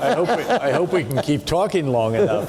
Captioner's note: people laughing